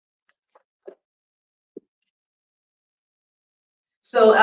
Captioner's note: silence